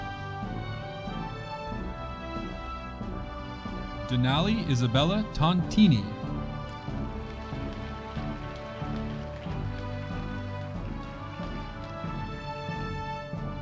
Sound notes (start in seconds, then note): 6.9 audience applauding